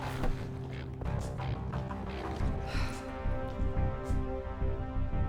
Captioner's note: sighs